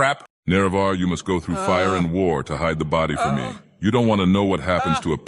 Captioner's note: Panicked Nerevar Noises